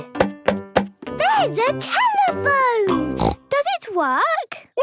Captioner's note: snorts